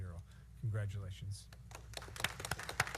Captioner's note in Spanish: aplausos